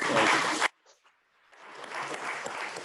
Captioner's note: applause